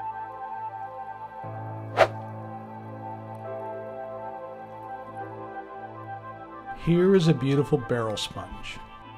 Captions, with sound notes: [whoosh] Here is a beautiful barrel sponge